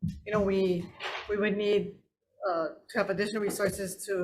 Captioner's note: none